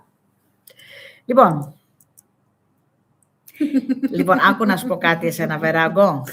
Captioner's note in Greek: γέλια